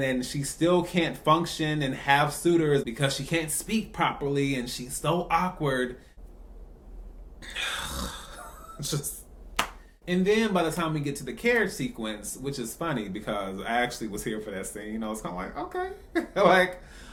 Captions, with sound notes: and she still can't function and have suitors, because she can't speak properly and she's so awkward. Just..... *Sigh* And then by the time we get to the carriage sequence, which is funny, because I actually was here for that scene. I was kind of like.....okay.